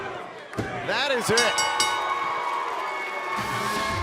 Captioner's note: bell ringing